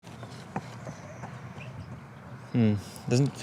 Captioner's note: running